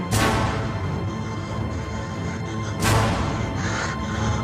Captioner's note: woman panting